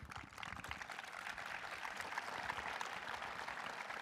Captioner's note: audience applauding